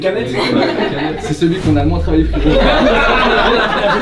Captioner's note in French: rires; rires